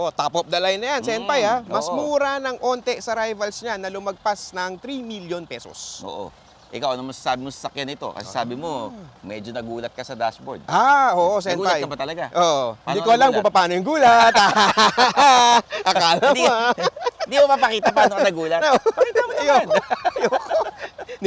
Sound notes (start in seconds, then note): 14.6 laughs